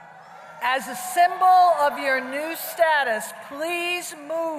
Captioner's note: applause